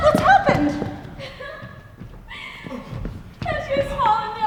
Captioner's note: a woman cries